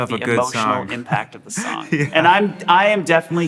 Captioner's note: laughs